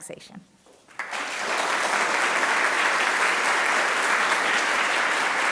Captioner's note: applause